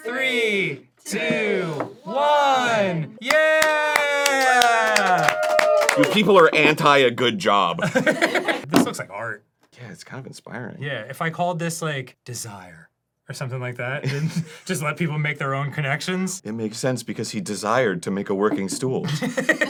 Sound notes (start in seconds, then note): 4.2 crew clapping